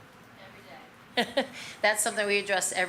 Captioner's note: laughs